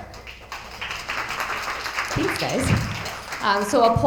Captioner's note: attendees applauding